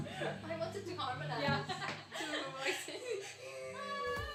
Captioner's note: laughs